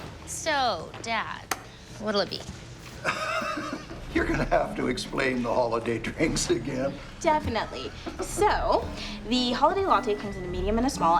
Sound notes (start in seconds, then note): 3.0 laughs